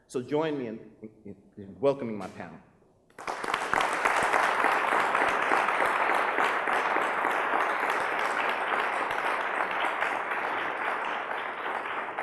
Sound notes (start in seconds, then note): 3.3 applause